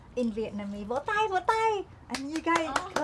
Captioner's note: speaking Vietnamese